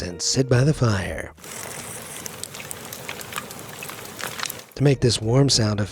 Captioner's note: fire crackles